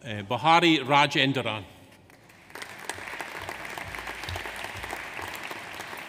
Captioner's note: audience applauds